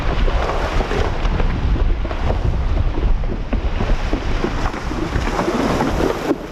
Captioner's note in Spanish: Sonido de pisadas de caballo en el lecho del río